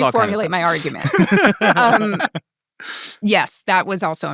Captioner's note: people laughing